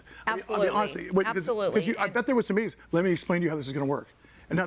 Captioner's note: none